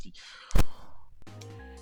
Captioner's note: tilted gasp 2